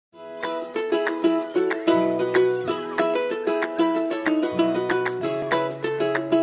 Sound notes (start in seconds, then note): 0.2 bright music; 2.9 children playing